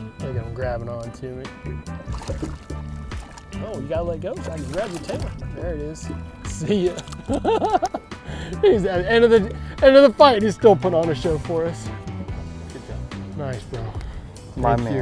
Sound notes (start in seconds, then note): 2.4 water splashing; 6.4 laughing